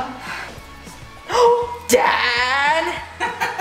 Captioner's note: gasps